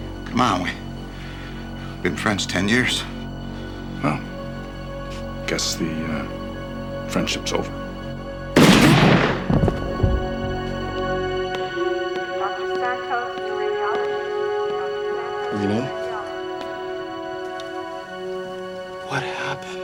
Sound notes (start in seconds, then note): 8.6 gunshot; 12.1 on hospital loudspeaker